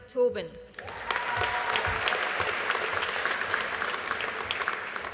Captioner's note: audience applauding